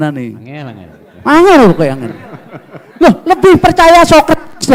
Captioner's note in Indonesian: tertawa